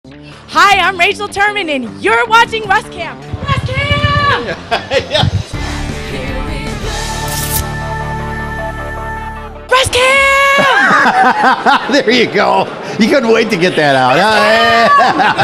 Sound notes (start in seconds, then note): 4.4 laughter; 10.5 laughter